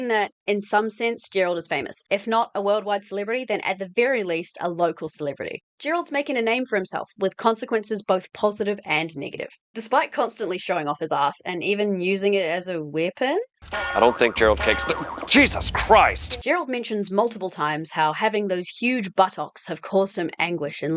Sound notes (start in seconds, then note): 13.7 bonk bonk